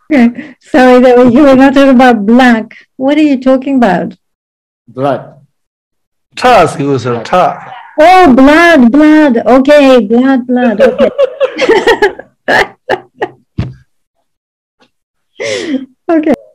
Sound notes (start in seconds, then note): 6.7 man speaking in foreign language; 10.6 everyone laughing